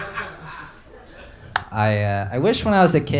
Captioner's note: light switch